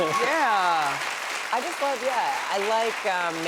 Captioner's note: applause